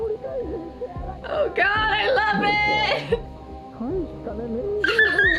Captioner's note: laughs